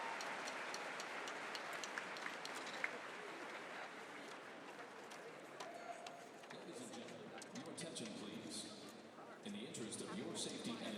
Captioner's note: applause